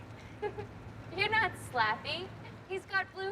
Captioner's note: laughs